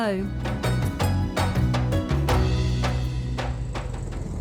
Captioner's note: engine noise